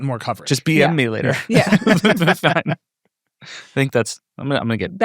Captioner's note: people laughing